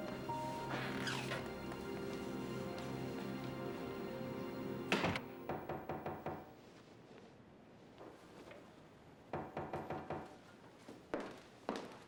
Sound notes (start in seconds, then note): 5.3 knocking at door; 9.2 knocking continues